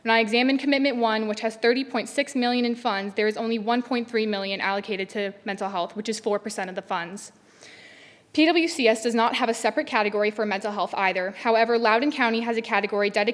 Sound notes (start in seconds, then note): none